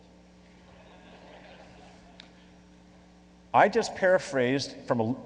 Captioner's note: laughing